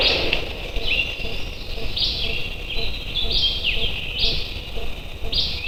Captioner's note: birds chirping